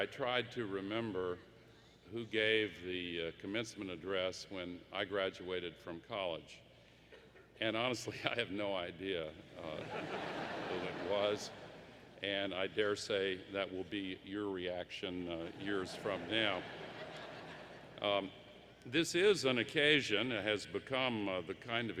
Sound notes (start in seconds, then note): 9.6 laughter; 15.4 laughter